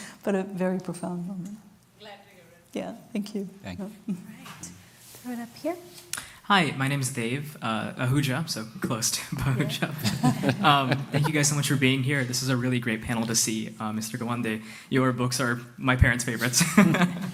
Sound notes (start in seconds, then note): 9.4 laughter